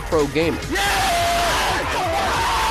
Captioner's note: cheering